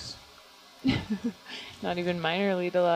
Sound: scientist laughing

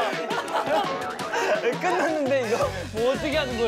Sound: dumbfounded but laughs

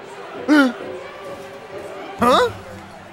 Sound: gasps

